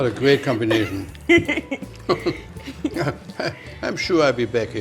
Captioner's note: laughs